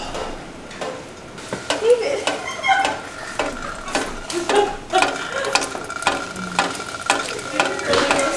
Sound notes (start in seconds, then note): 2.7 water dripping in metal pot